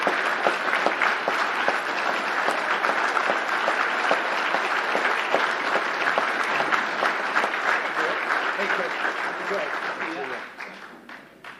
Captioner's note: applause